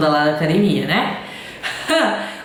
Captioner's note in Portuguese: risos